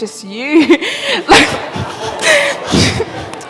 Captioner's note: laughter